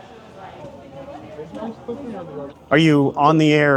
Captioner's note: employees chattering indistinctly